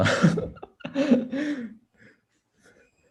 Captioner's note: laughs